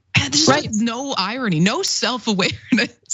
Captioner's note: laugh